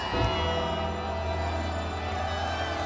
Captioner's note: intense music; troops cheer